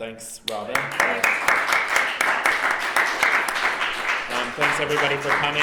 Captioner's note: applause